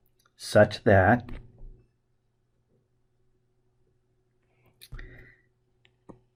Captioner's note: writing Sounds